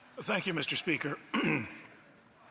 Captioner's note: speaking French